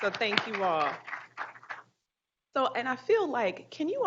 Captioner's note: group applauding